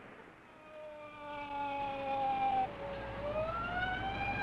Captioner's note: siren blaring